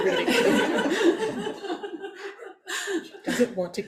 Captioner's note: audience laughs